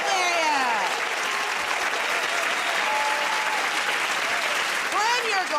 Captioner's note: cheers and applause